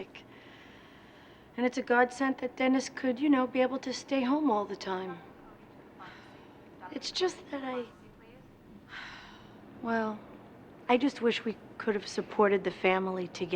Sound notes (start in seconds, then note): 8.8 sighs